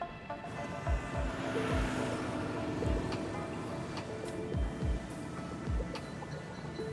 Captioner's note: brooding electronic music; engines rev